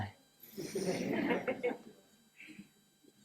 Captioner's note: laughter